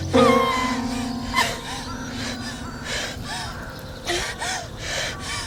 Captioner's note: crows cawing; Ira cries